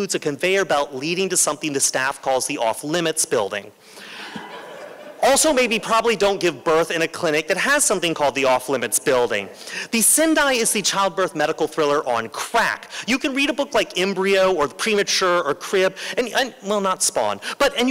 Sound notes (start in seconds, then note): 4.1 laughter